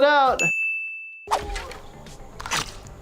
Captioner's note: dings; slicing